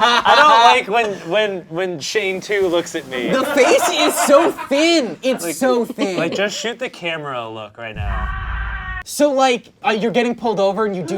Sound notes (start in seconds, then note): 0.0 all laugh; 8.0 muffled scream